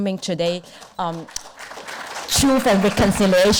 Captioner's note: audience applause